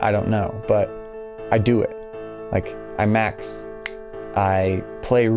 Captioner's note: snaps fingers